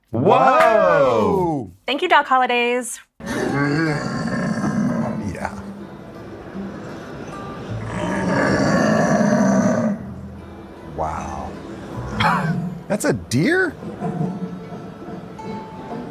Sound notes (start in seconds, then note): 0.5 claps; 3.2 deer caller grunting; 8.2 deer hunter grunting; 12.2 laughs